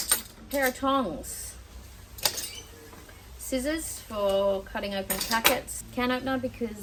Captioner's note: none